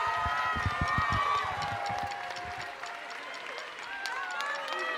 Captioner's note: audience cheering; drum sticks clicking